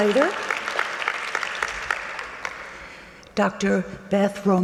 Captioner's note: audience clapping